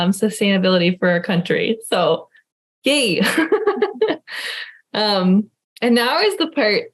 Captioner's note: laughing